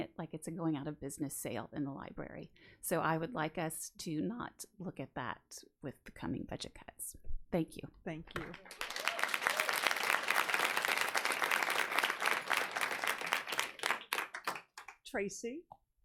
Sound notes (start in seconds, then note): 8.3 audience applauds; 8.4 audience cheering